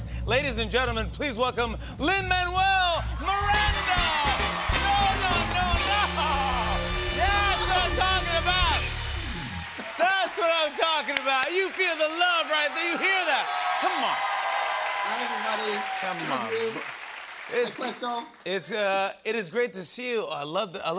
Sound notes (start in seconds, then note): 4.5 cheers and applause